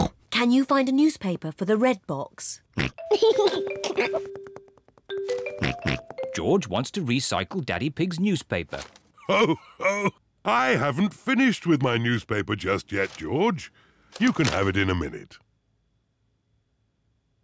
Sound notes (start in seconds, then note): 2.8 snorts, giggles; 4.7 snorts; 9.2 laughs